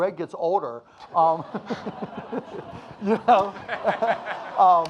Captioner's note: audience laughing